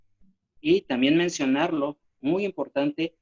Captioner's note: speaking spanish